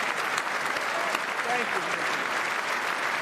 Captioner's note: applause